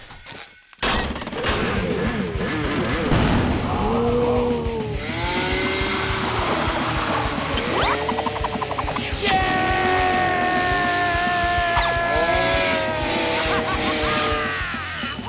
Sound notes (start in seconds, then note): 3.3 gasping; 8.0 laughing